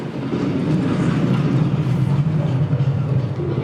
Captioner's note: thunder rumbles